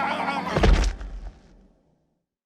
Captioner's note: cheers and applause; thud